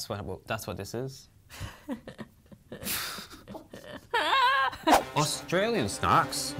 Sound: laugh

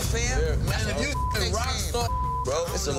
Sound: beep

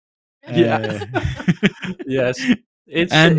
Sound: laughter

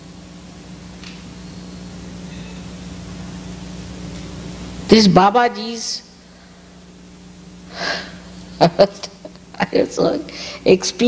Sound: shri mataji laughs

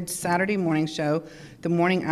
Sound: none

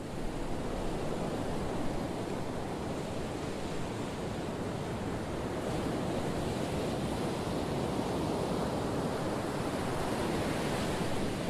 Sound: ocean noises: waves lapping shore

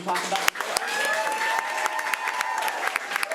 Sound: applause

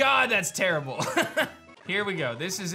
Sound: chuckles

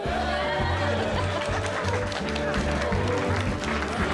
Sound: laughing; cheering and applause

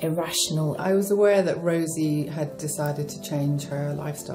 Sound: voiceover

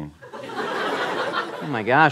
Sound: laughter

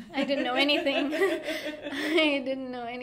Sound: both laughing

